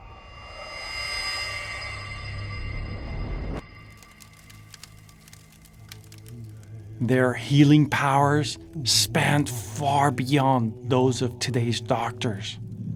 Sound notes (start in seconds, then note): 0.1 eerie music; 4.1 fire crackling